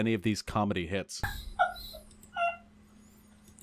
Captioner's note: highyena laughing